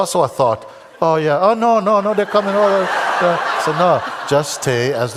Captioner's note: laughter